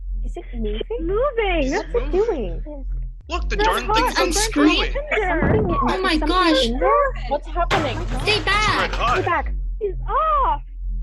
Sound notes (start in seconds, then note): 0.1 crowd voices; 7.7 clanking sound of a huge piece of falling metal; 9.5 crowd exclamations